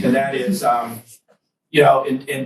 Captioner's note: students chuckle